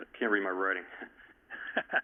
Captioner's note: laughter